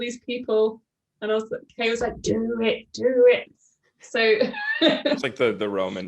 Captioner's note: laughs